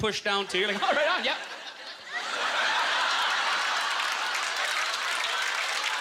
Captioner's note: audience laughter; applause